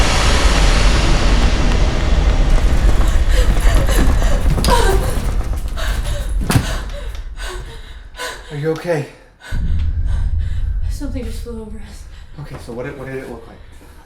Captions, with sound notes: (Gasping) Are you okay? Something just flew over us. -Okay, so what did it look like?